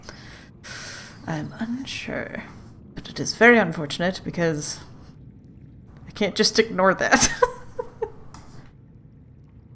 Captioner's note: laughs